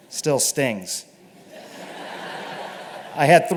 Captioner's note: laughter